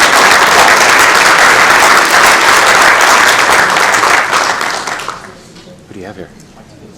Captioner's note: applause